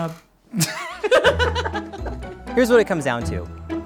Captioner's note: both laughing